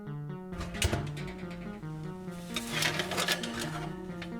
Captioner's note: oven opens